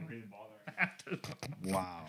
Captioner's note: non-english Speech